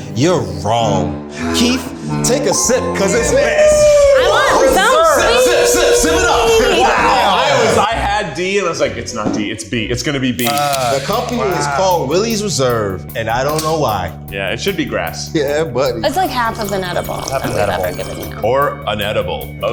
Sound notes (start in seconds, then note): 0.7 disappointing music; 10.4 can tab popping